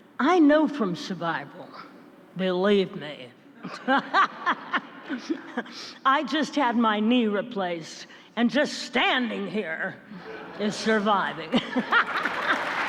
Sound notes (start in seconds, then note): 3.6 audience laughs; 10.1 Minnelli and audience laugh